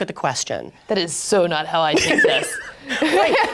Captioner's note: laughs